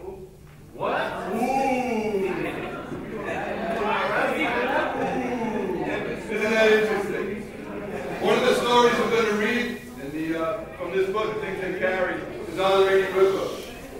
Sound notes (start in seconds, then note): 2.7 people chattering